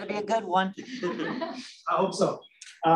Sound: laughter

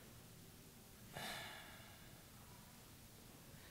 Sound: sighs

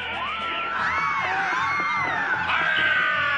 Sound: screaming

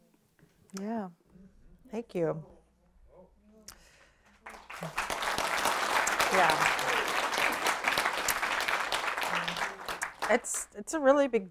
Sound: applause

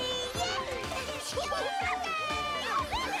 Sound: cheering, laughing; chittering

